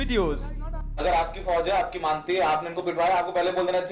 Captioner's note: speaking hindi